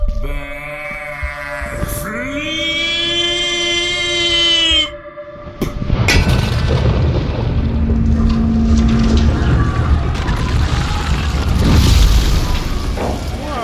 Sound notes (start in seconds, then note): 5.6 thunk as Derf kicks the cable